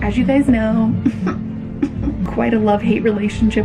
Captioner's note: scoffs